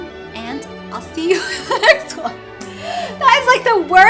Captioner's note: laughs